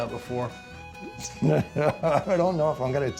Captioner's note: laughter